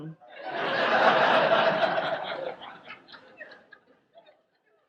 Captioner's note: audience laughs